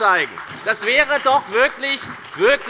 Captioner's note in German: Beifall bei der FDP und der SPD